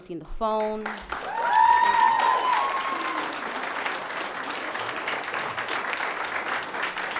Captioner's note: audience applauds; audience cheers